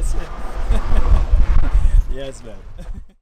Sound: laughing

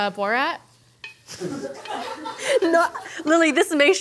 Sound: laughing

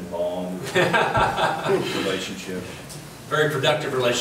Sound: laughing

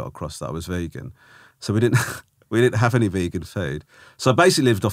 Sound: Romesh laughing

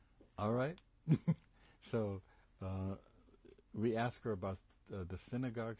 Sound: pauses for 3 seconds; laughs

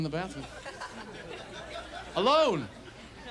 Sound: audience laughs

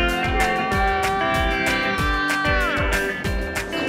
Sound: Dud', shouting

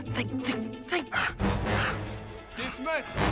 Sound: huffing

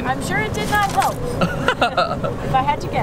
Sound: laughing

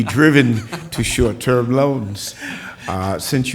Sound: laughter

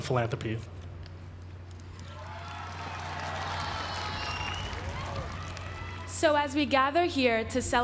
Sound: applause

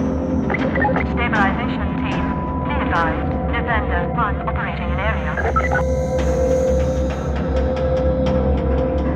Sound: radio

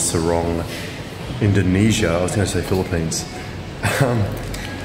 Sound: laughs

